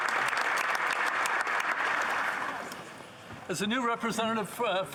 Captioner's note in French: applaudissements